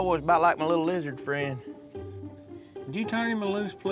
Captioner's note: none